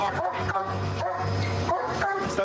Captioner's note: barking